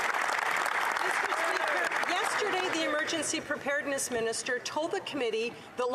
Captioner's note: cheering and Applause